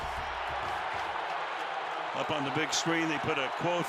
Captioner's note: crowd cheering